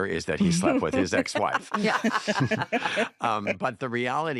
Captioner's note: all laugh